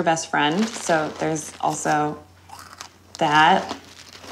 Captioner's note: crunching